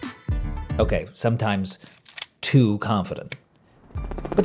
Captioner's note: helicopter clattering